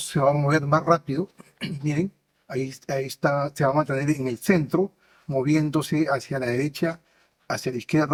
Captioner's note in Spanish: carraspeo